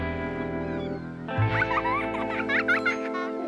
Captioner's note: child laughing